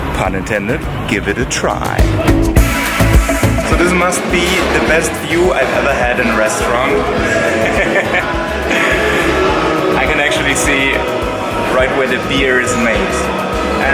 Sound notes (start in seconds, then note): 7.5 laughs